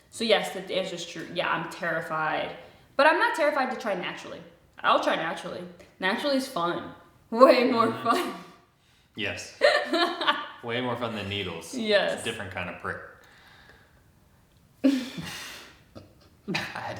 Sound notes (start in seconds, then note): 9.6 laughing; 9.6 laughs; 14.9 both chuckle